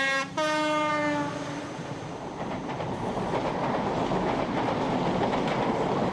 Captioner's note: train horn